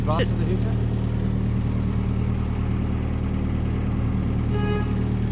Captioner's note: engine noise